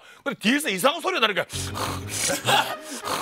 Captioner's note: panting